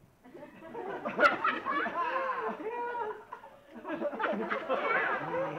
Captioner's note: audience laughing